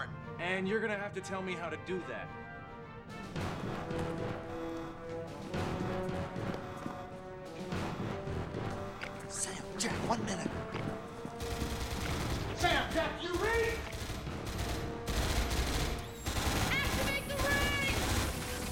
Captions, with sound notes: AND YOU'RE GOING TO HAVE TO TELL ME HOW TO DO THAT. SAM, JACK, ONE MINUTE. [GUNFIRE] SAM, JACK, DO YOU READ? ACTIVATE THE RINGS!